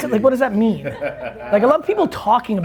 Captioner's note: laughing